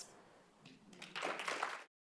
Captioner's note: applause